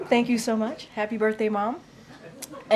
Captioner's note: laughter